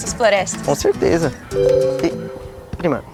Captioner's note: notification